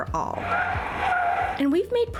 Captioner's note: brakes screech